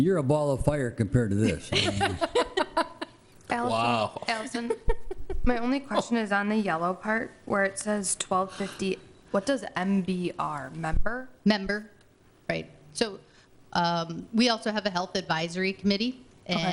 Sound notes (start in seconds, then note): 1.4 laughs